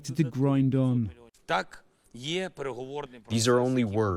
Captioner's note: through translator